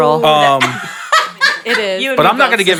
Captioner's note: panelist laughing